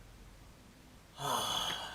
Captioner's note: groan